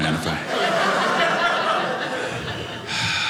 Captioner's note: audience laughing